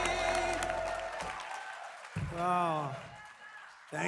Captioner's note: applause